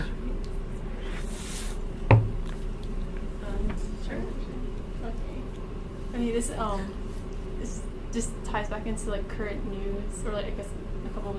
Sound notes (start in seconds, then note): 7.2 laughs